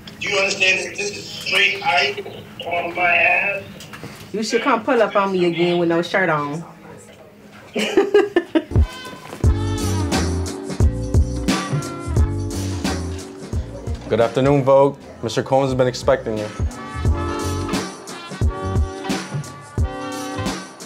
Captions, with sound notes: - Do you understand that this is straight ice on my abs? - You should come pull up on me again with no shirt on. [laughs] [slow hip hop music] - Good afternoon Vogue. Mr. Combs has been expecting you. [slow hip hop music]